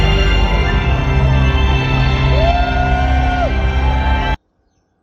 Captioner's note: dramatic music; cheering; bird song